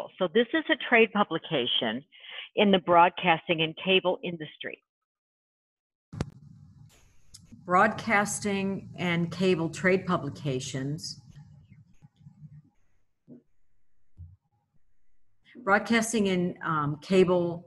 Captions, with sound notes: So this is a trade publication in the broadcasting and cable industry. [mic noise] Broadcasting and cable trade publications, broadcasting and, um, cable